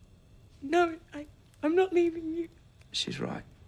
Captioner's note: crying